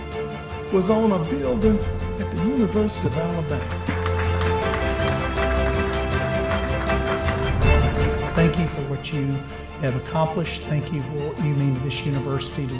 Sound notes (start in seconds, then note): 4.0 applause; 4.0 dramatic music